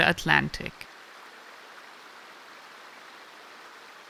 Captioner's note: rain pattering